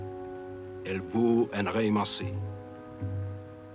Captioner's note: speaking french